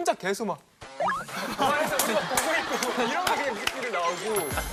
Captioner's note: full of Laughs and Giggles